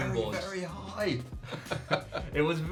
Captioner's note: laughing